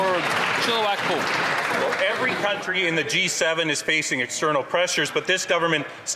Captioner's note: some Applause